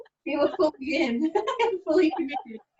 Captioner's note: laughing